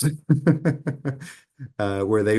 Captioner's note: laughs